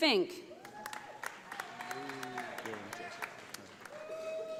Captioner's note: audience applauding